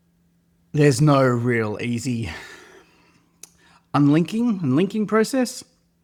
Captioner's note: sighs; clicks tongue